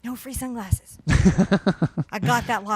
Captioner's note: laughs